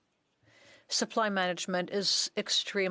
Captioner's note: speaking French